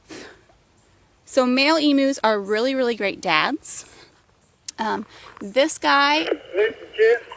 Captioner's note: radio noises